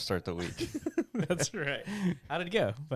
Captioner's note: laughs